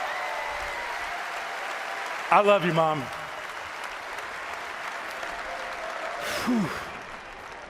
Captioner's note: cheering